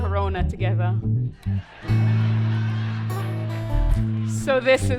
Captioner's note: laughter